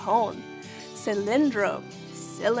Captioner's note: speaking in foreign language